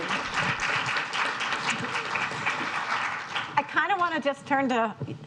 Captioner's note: audience applauding